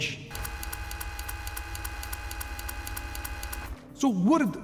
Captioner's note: machine whirring